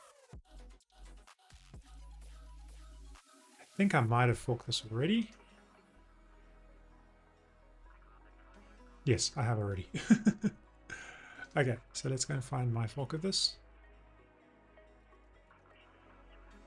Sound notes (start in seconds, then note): 5.7 soft music; 9.9 laughs